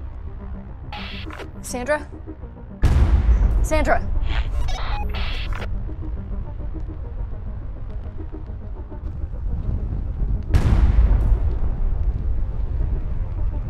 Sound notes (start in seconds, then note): 4.1 radio bleep; 10.5 missile launching